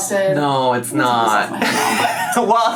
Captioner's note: laughs